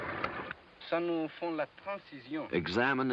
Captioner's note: speaking french